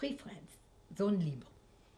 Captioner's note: french